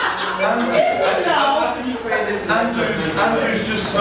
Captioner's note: laughter